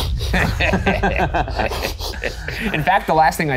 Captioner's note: snickers; all laughing